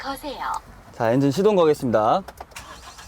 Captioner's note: turning on the engine